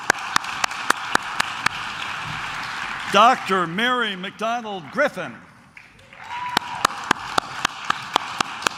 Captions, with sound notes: Dr. Mary McDonald Griffin. (claps)